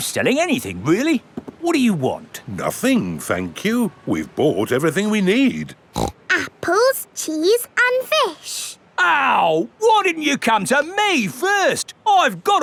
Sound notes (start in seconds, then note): 5.9 snorts